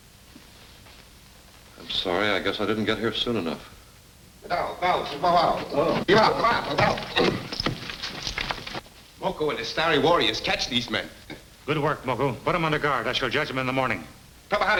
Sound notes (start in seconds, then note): 4.7 speaking in a foreign language